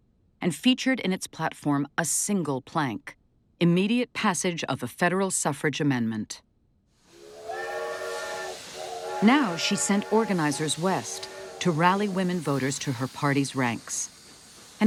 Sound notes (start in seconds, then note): 7.1 train whistle blows